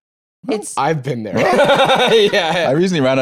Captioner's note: laughs